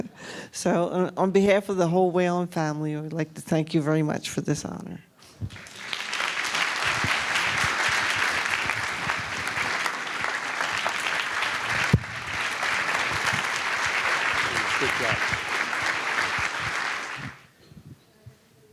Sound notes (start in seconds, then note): 5.2 applause